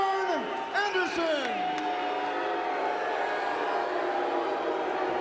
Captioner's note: crowd boos